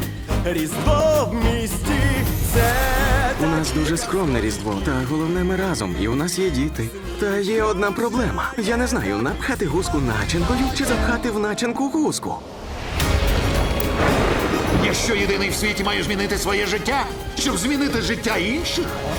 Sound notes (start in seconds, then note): 12.4 thunder crashes